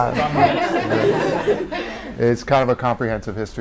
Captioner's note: audience laugh